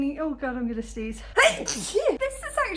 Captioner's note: loud sneeze